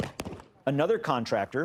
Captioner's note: gunshots